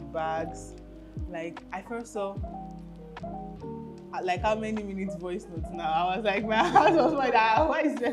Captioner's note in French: rires